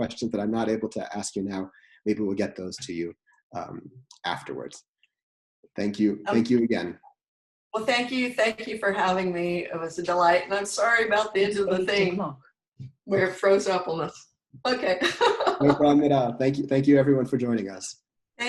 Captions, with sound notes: So if there are any questions that I'm not able to ask you now, maybe we'll get those to you afterwards. Thank you. Thank you again. - Well, thank you for having me. It's was a delight and I'm sorry about the ends We're frozen suppleness, okay (chuckles) - Thank you. Thank you everyone for joining us.